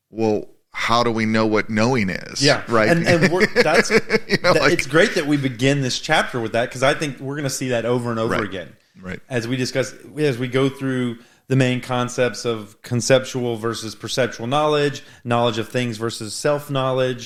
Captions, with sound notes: well, how do we know what knowing is? - Yeah. - Right? (laughing) - It's great that we begin this chapter with that, because I think we're gonna see that over and over again. As we discuss, as we go through the main concepts of conceptual versus perceptual knowledge, knowledge of things versus self-knowledge,